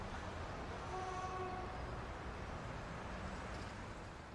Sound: cars honking

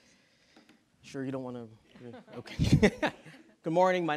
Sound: laughs

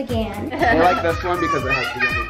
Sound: laughs

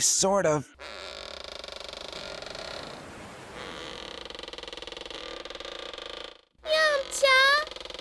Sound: wooden ceiling is creaking

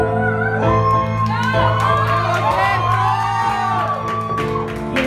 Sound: cheering and applauding

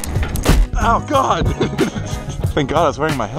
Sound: laughs

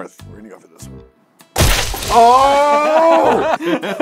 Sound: sounds of agony

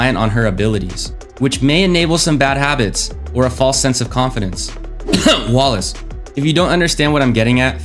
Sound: cough

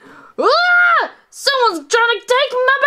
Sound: screams

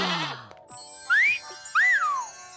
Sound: gasping; whistling

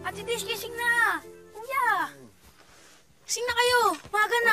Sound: Aldos moaning

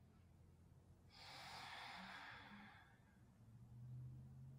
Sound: breathing

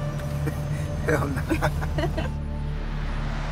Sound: both laughing

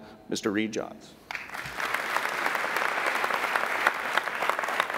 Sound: applauding

